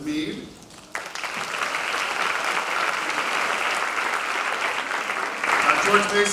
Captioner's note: applause